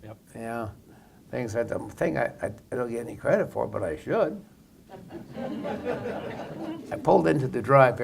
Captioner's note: laugher